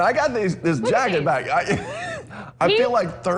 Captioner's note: laughter